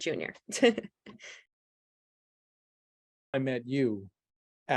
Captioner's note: laughs